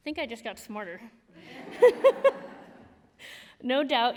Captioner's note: laughter